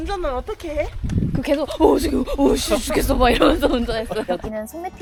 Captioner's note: imitating Jiyong's voice ㅋㅋㅋㅋ